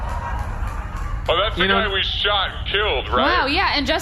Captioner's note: audience gasps